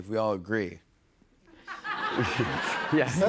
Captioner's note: laughter